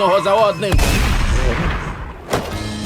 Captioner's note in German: Schuss